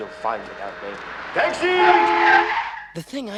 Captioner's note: tires screeching